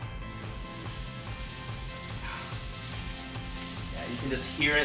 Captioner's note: broccoli sizzling